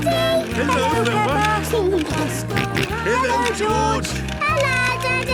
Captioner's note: George giggling and snorting